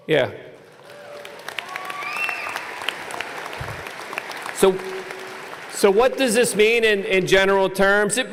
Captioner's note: applause